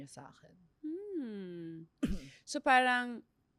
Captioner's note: clears throat